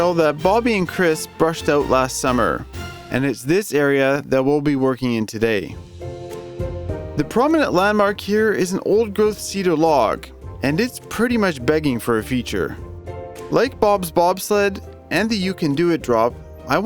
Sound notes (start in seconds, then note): none